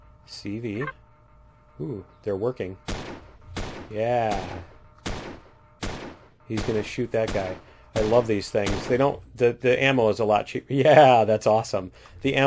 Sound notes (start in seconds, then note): 2.8 turret firing